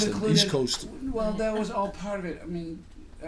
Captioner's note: voiceover